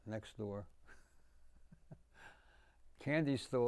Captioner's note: laughing